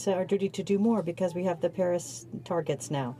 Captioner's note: speaking French